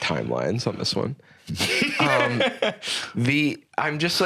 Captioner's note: laughs